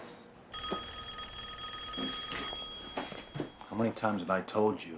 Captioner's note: phone ringing